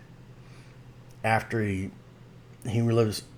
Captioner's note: none